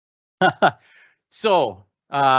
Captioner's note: laughing